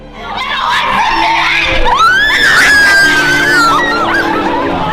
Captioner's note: screaming